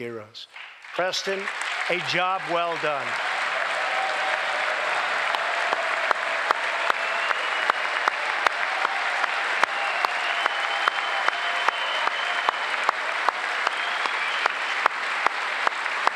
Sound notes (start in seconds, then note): 0.6 applause; 16.0 applause